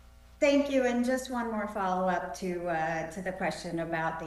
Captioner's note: none